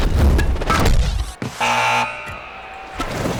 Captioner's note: buzzing